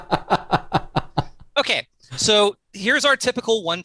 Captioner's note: laughter